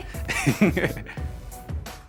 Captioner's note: laughter